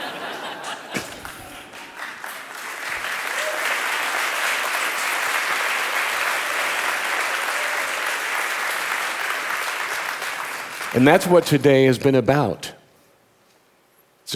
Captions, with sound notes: (audience laughing) (audience applauding) And that's what today has been about.